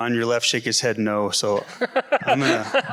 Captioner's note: man laughs